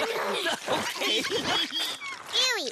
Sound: pushing grunts and laughter

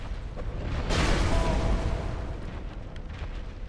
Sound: in game: explosion, character yelps

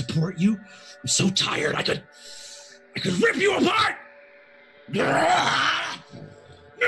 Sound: growls

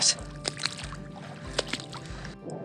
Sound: sound of walking in water

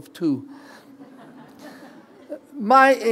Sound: laughter

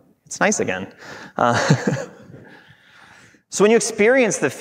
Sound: laughing

